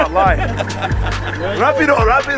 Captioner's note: everyone laughing amusingly